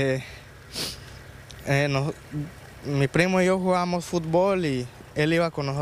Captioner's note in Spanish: habla en ingés